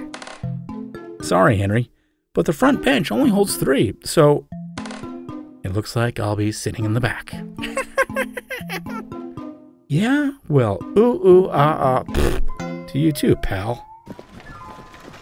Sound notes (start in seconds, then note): 0.1 wood squeak; 4.4 wood squeak; 7.6 laughing